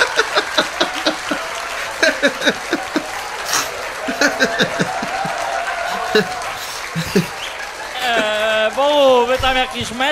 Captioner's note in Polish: Aplauz